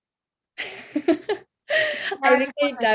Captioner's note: laughs